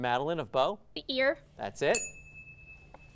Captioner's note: ding sound